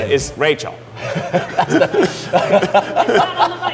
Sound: laughing

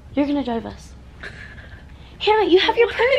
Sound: laughs

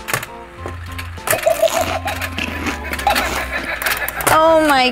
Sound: shark laughs

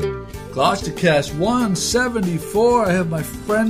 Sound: voiceover

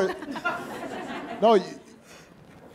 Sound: audience laughing

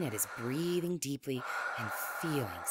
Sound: strong breathing

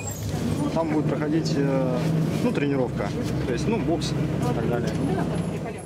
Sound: speaking in foreign language

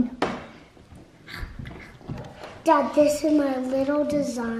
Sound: imitates animal chomping

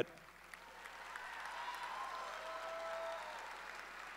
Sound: audience cheering

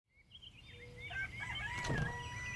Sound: birds chirping

